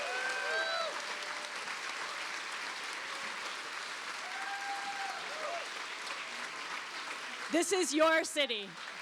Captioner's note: cheers and applause